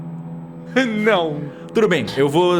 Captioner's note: laughter